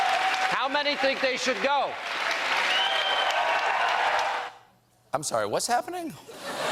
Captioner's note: applause